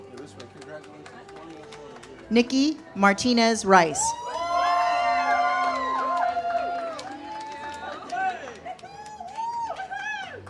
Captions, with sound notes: Nikki Martinez-Rice. (audience cheers)